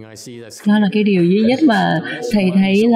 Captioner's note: laughter